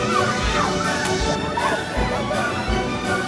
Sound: yelling

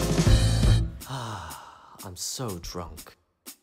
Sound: sigh

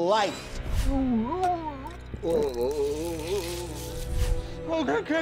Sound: moaning

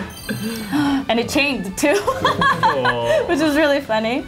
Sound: gasp

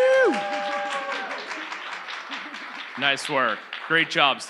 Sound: audience cheers

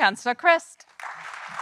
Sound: audience applauding

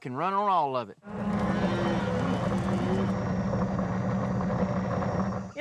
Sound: mooing

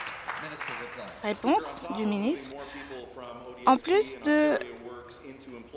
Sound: applause

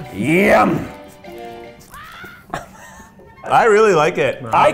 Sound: distant playful scream

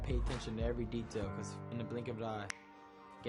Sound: snaps

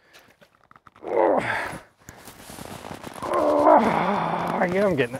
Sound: grunting

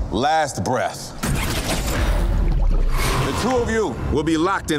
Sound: scene whooshing; water gurgling

